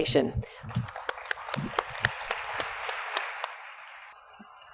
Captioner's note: audience applauds